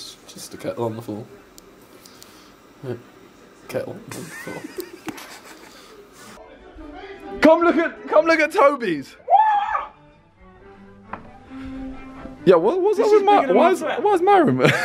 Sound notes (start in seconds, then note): 4.1 laughing; 9.2 screaming; 14.6 laughing